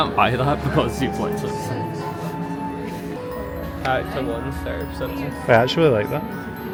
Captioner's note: laughs